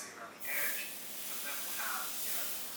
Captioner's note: hissing as the hot knife cuts into the chilled ganache